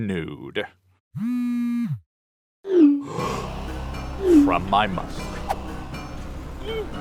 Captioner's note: buzz; gasp